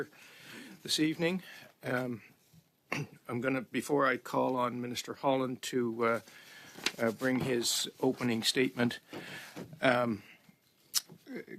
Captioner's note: speaking French